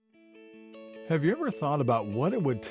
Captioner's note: male Voice